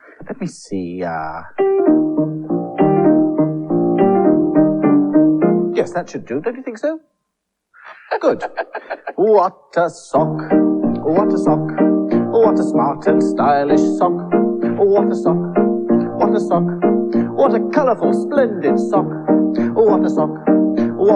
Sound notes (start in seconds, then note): 7.8 Toby Laughs; 9.2 singing While Playing Piano